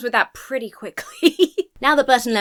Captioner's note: laughs